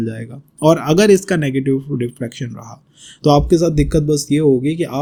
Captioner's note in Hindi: नाक से की जाने वाली आवाज़